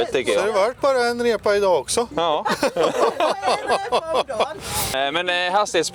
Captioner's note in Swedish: skratt